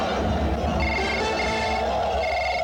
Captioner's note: telephone rings